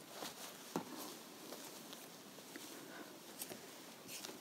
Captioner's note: fabric rustling